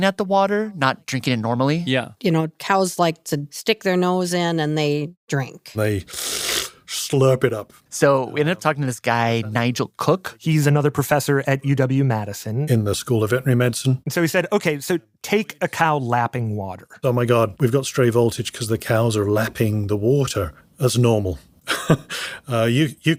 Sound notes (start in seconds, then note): 6.0 slurps; 21.7 laughs